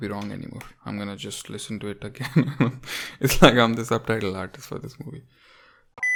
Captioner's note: chuckles